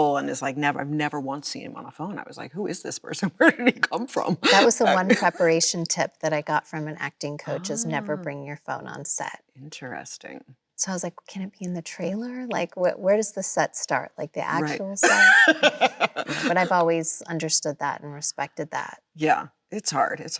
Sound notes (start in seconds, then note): 16.1 Chloe laughs